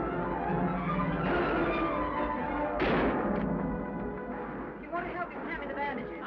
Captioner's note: exciting music; guns bang